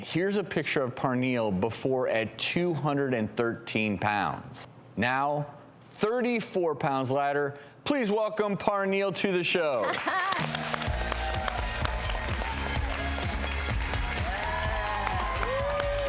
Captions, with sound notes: Here's a picture of Parnielle before, at 213 pounds. Now 34 pounds lighter, please welcome Parnielle to the show. (audience applauding) (upbeat music)